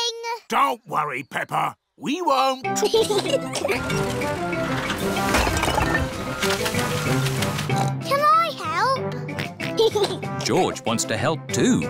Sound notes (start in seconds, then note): 2.8 both giggling; 7.7 oinks; 9.3 oinks and giggles